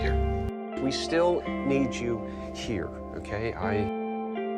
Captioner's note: voiceover